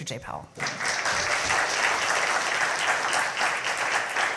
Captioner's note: audience clapping